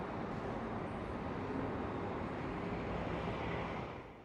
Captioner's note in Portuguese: sons da cidade à noite